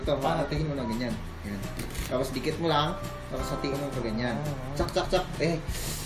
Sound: cutting sounds

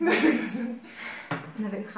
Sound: laughing

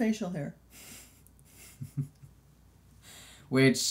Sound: laughs

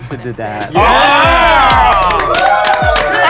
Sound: the teachers are cheering

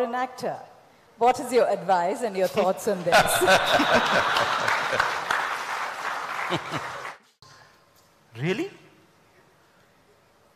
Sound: laughter/ Applause

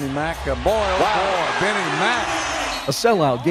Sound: cheering

